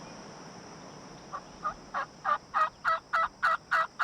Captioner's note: turkey calls